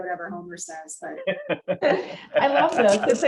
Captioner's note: laughter